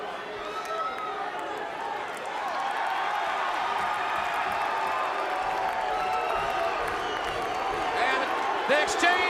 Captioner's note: crowd cheering